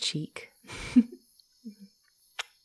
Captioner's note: giggles before leaning over